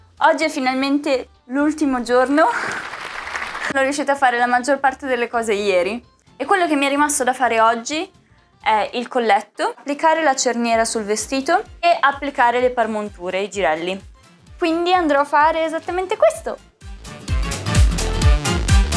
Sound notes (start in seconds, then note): 2.4 applause